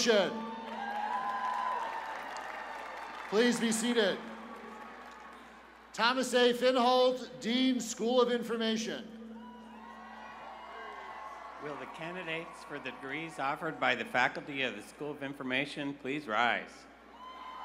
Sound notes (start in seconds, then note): 2.1 cheers and applause